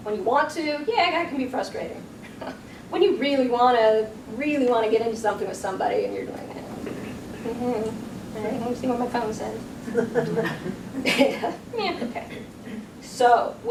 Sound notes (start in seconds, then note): 6.3 low mumbling; 9.8 audience chuckles